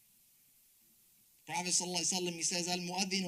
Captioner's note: speaks Arabic